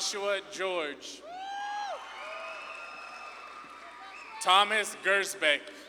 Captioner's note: audience claps and cheers